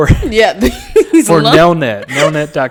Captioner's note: laughing